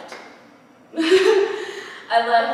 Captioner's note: laughter